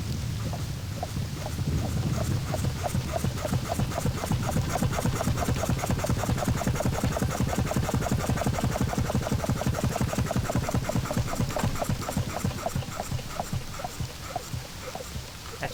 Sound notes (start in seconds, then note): 0.0 pump noises